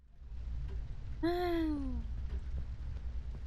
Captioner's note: sigh